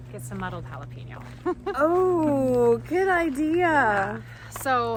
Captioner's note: laughs